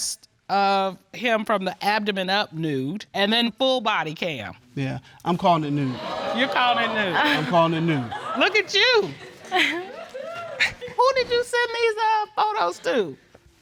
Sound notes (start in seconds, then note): 8.2 chuckles